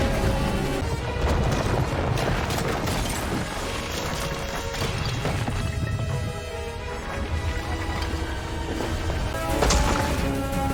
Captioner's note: rumbling, ceramic clinking & breaking, splashes; crack